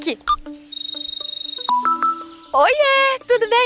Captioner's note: mobile phone ringing